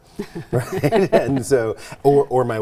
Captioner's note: laughs